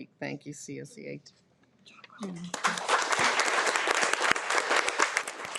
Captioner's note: audience applauding